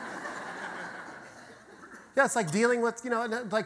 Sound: audience laughter

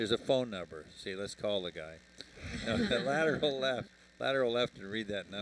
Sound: laughter

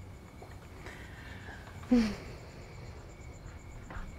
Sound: sighing

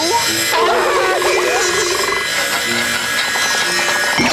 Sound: gulps; grinding

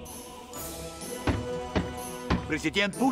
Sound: knocks at door

